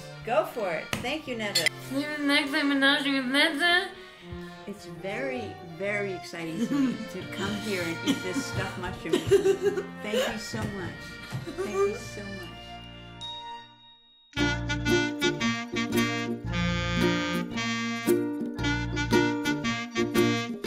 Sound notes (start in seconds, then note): 9.2 laughing; 13.1 laughing; 14.4 instrumental music